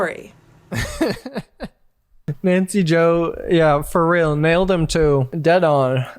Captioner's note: laughing